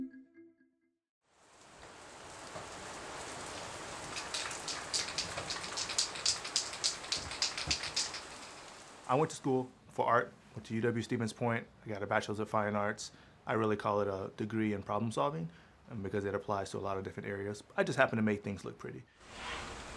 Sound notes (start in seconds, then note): 7.2 paint can rattling